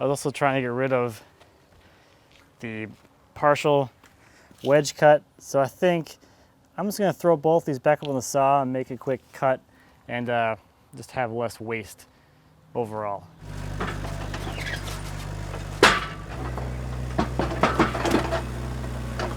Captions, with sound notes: I was also trying to get rid of the partial wedge cut. So, I think I'm just gonna throw both these back up on the saw, and make a quick cut, and just have less waste overall. (wood falling onto metal)